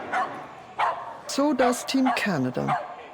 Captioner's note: dogs barking